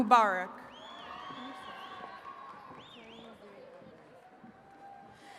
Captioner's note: attendees cheering